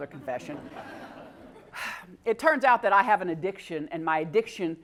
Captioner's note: laugh